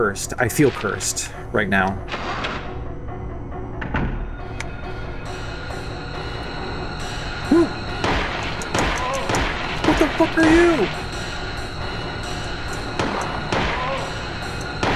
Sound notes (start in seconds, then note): 6.2 scared hooting